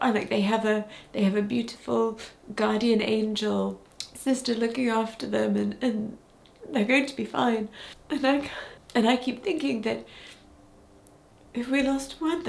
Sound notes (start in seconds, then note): none